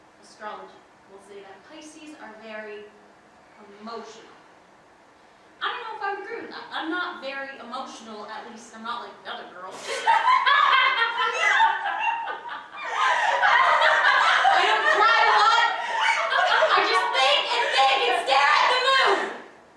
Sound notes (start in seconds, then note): 9.8 hysterical laughter